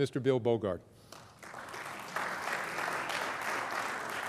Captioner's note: applause